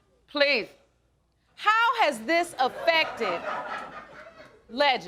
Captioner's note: audience laughing